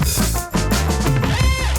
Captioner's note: scissors snipping